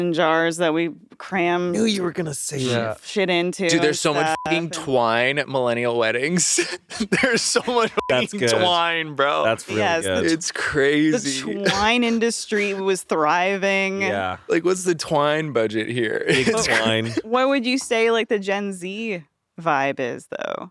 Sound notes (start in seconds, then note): 5.0 beeping